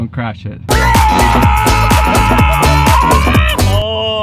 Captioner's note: roars